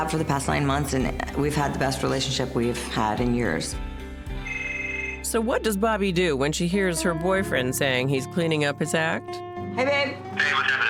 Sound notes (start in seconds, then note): 4.4 phone rings